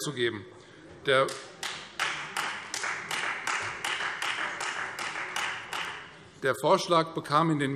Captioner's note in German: Beifall Freie Demokraten